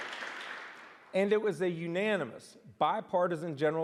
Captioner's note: applause